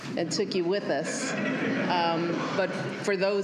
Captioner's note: laughter